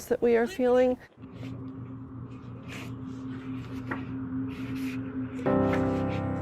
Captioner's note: shuffling